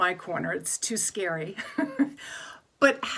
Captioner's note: laughs